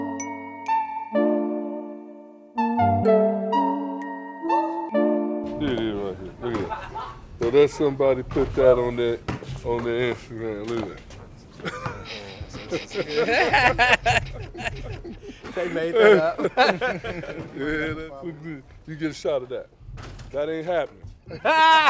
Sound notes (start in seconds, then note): 11.6 laughter; 21.2 laughter